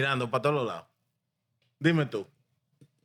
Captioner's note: speaking In Foreign Language